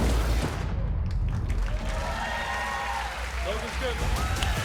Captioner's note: cheers and applause